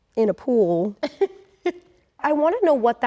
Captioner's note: laughs